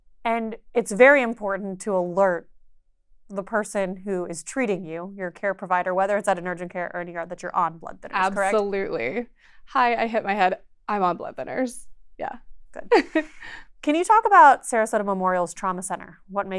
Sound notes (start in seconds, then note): 12.9 chuckles